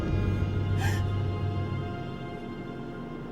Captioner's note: crying